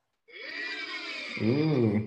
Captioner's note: soundboard whirring